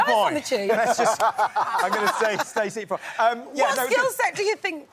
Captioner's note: daley laughing